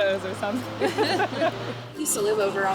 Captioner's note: laughter